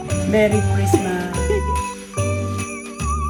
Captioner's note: giggling